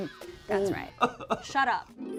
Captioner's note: cries